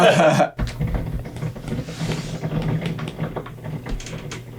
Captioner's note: laughing; shelves rattling